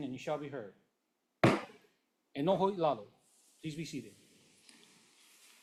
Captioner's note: gavel bangs once